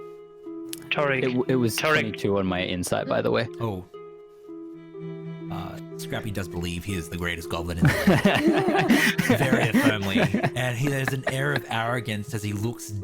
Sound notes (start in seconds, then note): 7.8 all laughter